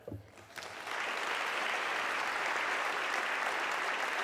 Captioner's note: audience clapping